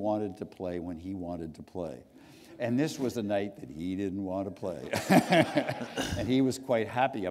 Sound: laughter

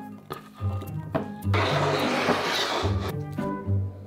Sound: bowl sliding

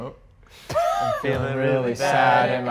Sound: laughs

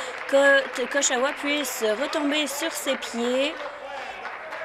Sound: applause

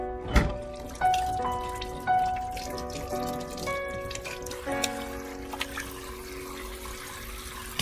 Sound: water splashing

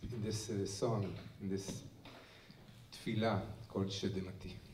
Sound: hebrew

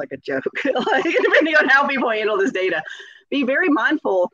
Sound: laughs

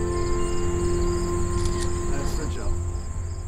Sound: camera click

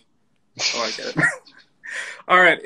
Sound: laughing

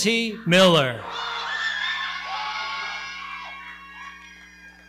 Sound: audience cheering

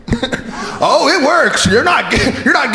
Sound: flicking the microphone

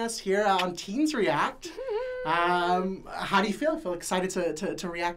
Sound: chuckling

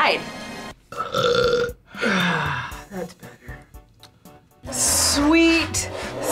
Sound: burps

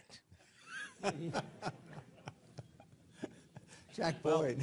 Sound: laughter

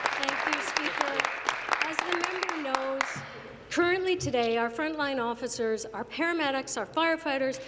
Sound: applause

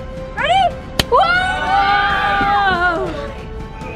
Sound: yelling

